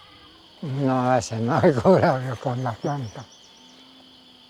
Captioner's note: speaking Spanish